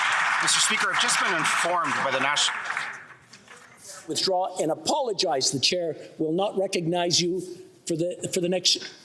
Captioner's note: some Applause